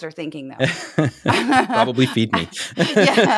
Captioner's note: laugh